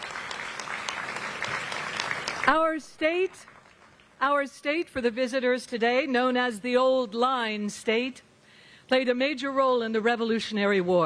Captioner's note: applause